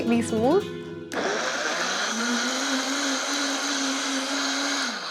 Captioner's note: whirring